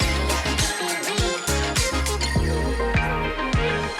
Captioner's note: background chatter; # upbeat music #